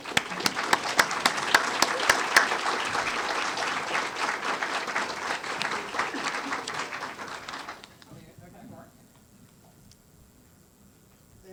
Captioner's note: applause